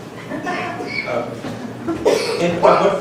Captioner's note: laughing